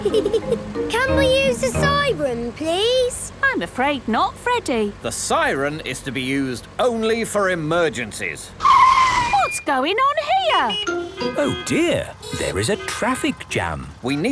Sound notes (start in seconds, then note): 8.4 brakes screeching; 10.2 honking